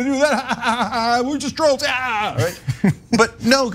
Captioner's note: laugh